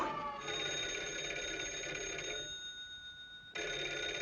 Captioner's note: phone ringing